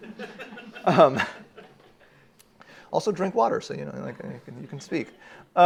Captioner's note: uproarious laughter at expense